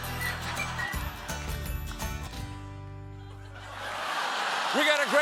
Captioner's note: laughter